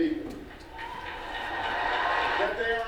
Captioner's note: audience applauses